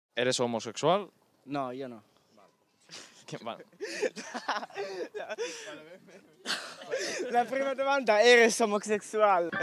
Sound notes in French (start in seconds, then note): 3.6 Rires